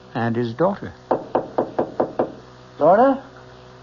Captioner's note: knocking